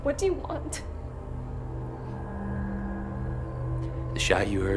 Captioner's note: tense music; crickets chirping